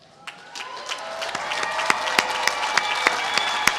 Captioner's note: applause